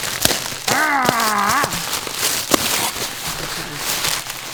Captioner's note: growling